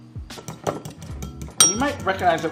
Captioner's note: fork clinking